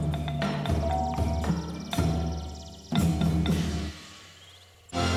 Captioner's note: birds chirping